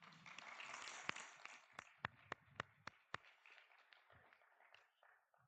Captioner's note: audience clapping